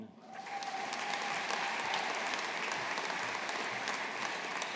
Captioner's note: audience applauding